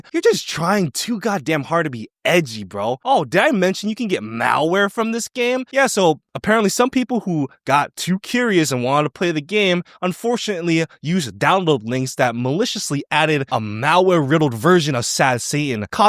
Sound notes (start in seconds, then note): none